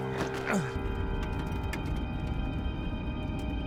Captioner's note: man sighs; man groans